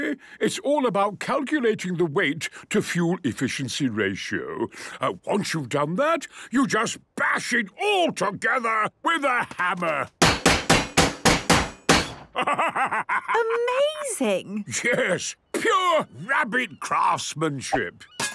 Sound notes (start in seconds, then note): 10.2 metallic bashing